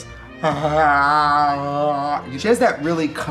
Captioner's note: Trixie moans